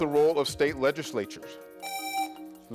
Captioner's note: buzzer rings